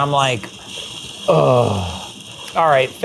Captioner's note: groans